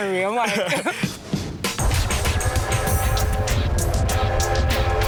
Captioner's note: laughs; train horn